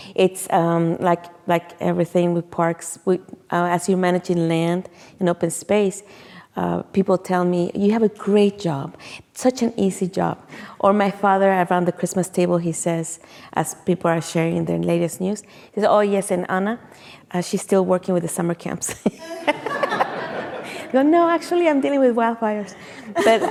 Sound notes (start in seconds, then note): 19.2 laughs; 19.2 audience laughing